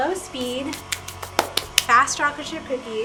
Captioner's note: mixer whirring